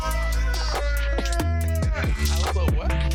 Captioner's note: shouting